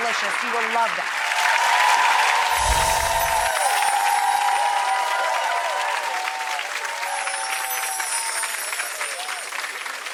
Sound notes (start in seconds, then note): 1.5 audience applause